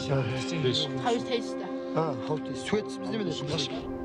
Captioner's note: speaks in Mongolian